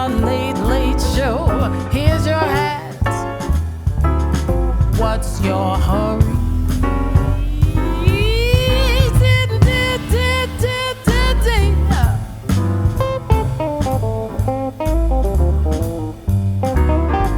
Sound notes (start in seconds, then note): 10.4 vocalizing; 14.4 swanky jazz music